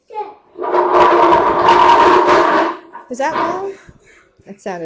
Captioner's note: loud scraping noise in background